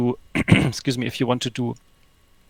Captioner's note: clearing throat